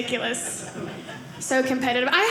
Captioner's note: audience laughing